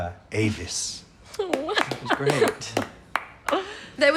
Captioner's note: laughter and applause